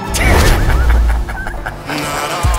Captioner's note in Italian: risata